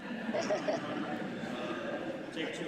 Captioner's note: laughter